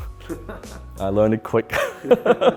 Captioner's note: chuckles